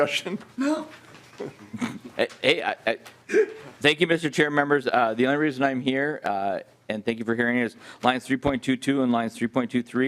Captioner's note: laughing